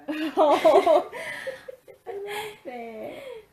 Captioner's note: laughing